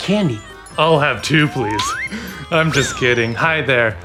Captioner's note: chuckles